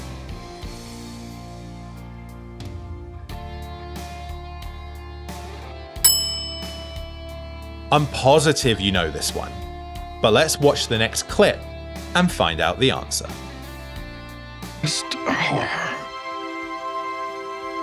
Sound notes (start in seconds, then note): 6.0 bell dings